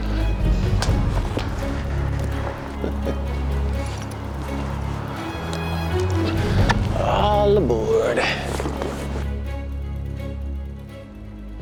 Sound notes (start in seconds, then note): 4.1 metal clinking; 7.0 boot thumps